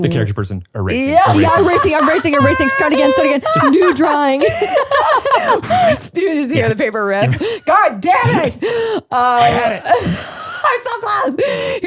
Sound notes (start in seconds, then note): 4.7 laugh